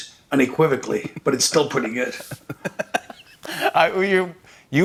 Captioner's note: laughs